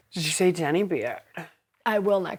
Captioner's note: american accent